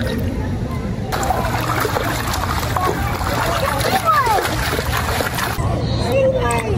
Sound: footsteps splashing in water

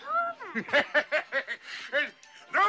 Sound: scrooge chuckles

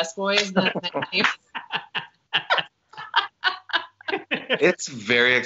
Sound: laughter

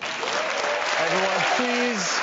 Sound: audience applauds

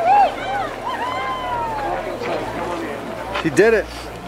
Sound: cheering

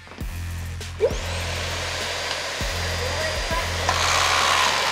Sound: vacuum whirling

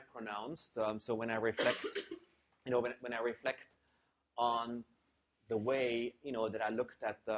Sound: cough

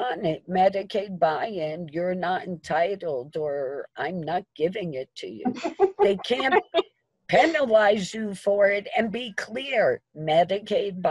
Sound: chuckling

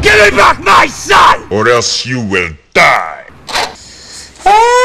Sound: in Ganon's voice

